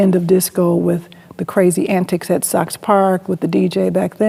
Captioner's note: none